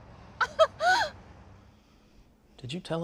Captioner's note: giggles